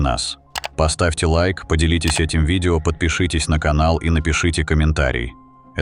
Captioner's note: mouse click sound